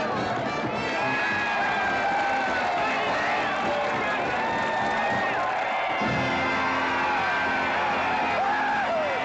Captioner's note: crowd applauding & cheering